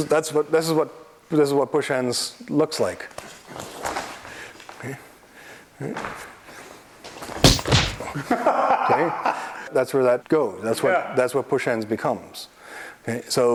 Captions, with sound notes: This is what push hands looks like. *POW!* *BOP!* That's where that goes. That's what push ends becomes.